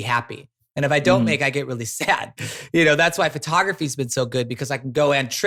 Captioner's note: laughs